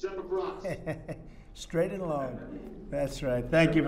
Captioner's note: laughs